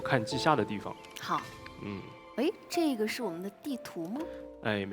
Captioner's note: surprised